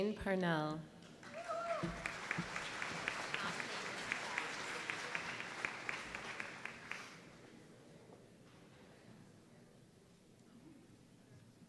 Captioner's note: applause